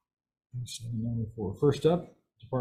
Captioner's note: speaking faintly